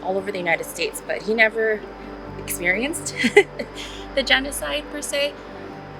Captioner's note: laughs